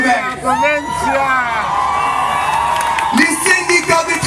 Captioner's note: applause